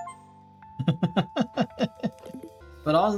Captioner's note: chuckling